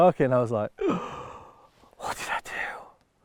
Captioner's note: loud grasp